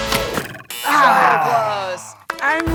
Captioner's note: buzzing